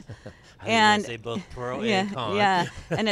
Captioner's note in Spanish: risas